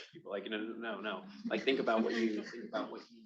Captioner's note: attendees laughing